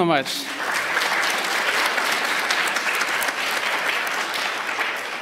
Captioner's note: applause